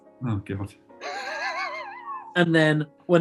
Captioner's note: sniggering